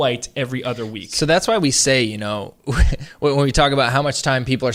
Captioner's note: laughs